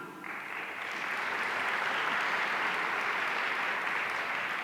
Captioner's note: audience applauding